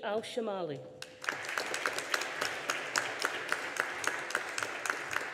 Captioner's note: audience applauding